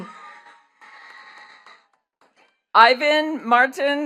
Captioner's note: attendees cheering and clapping